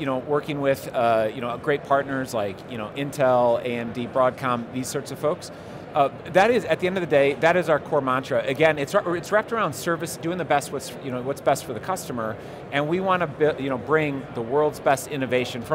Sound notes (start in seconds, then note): none